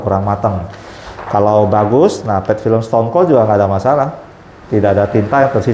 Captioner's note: PET film noise